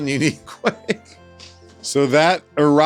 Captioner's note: laughs